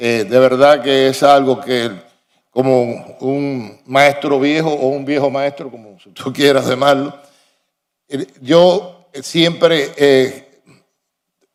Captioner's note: speaking spanish